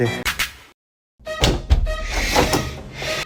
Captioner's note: clunk!